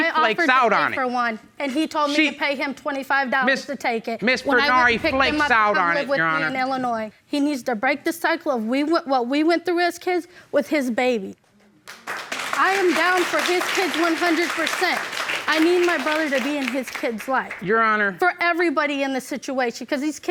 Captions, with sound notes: She flakes out on me. I offered to pay for one. And he told me to pay him 25 dollars just to take it. Ms... Ms. Furnari flakes out on it, Your Honor. When I picked him up to come live with me in Illinois. He needs to break the cycle of what we went through as kids with his baby. (AUDIENCE APPLAUDING) I am down for his kids 100 percent. I need my brother to be in his kid's life. Your Honor. For everybody in this situation